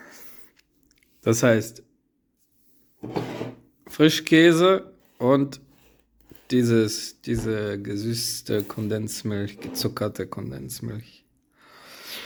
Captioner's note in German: japst